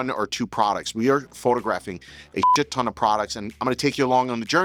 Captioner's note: beep